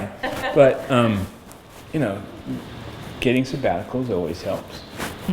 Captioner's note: laughter